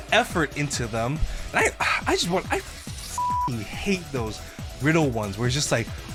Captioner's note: beep